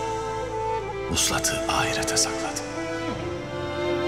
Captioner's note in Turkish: Ertuğrul iç ses